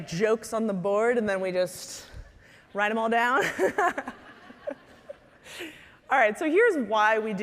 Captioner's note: laughing